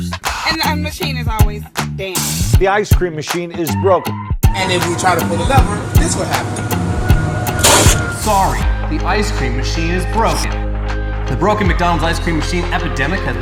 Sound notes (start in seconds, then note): 7.2 loud whirring